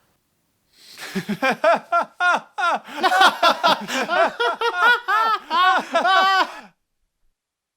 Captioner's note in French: rires